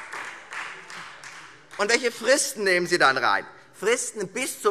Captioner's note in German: Beifall Freie Demokraten